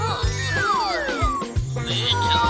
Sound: laughing

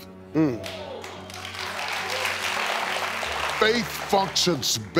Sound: audience clapping

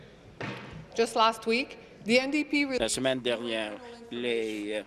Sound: speaking in French

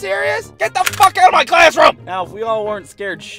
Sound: cocks the rifle

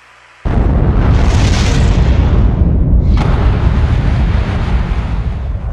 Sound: rocket ignites

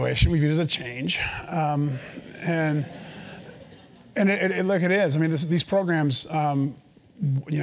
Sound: laugh

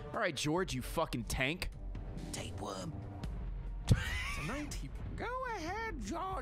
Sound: laughs

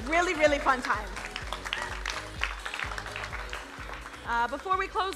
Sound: crowd applauding

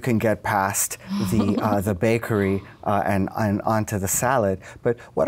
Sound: laughs

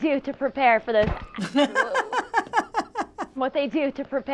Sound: laughing heartily

